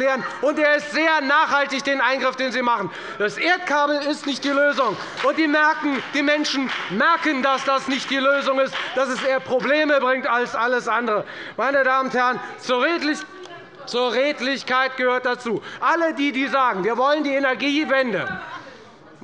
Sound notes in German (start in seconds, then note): 4.1 Beifall bei der FDP